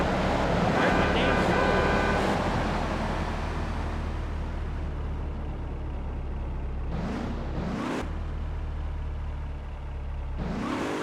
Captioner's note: engine revving